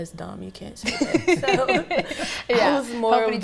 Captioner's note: everybody laughs